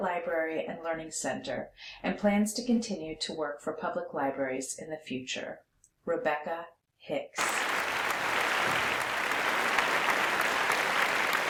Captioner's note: applause